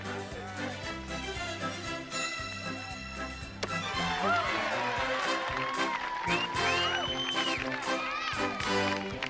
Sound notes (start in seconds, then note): 3.8 cheering and applause